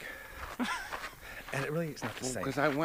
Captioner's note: Sean laughs